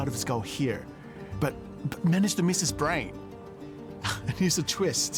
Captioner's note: laughs